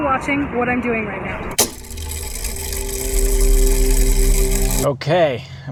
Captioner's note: mechanism whirring